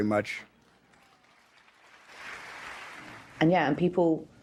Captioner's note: audience applauds